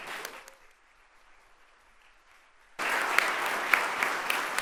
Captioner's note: audience applauding